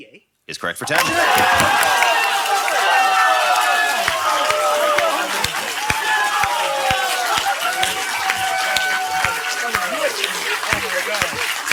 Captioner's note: thunderous applause